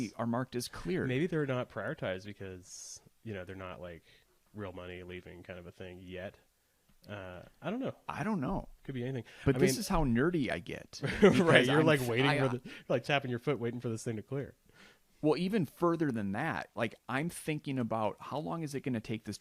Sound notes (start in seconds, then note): 11.0 laughs